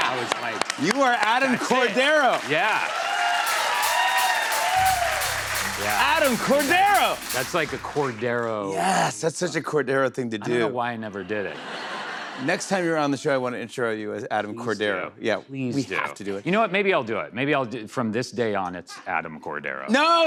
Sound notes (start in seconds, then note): 2.8 cheers and applause